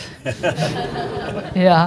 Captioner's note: audience chuckling